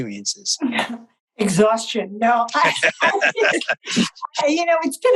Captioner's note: laughter